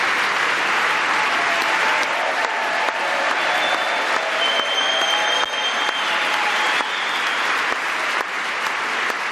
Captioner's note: applause